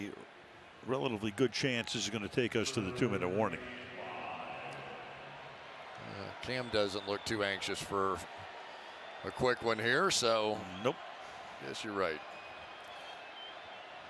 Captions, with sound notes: with a relatively good chance this is going to take us to the 2-minute warning. [pa announcement] Cam doesn't look too anxious for a quick one here. So Nope. --I guess you're right.